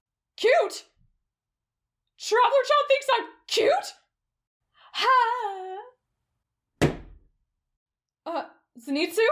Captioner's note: thud